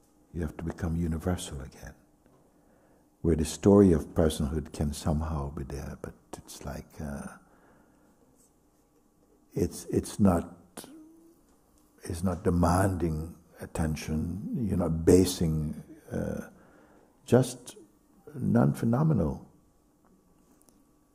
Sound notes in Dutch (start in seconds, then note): none